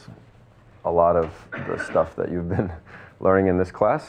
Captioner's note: chuckles